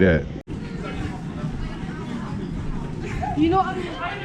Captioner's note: people chattering